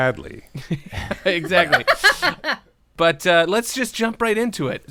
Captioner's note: laughter